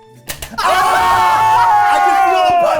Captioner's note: tooth clicking; people shouting; crocodile chopping